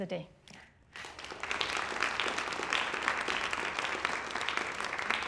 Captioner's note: applause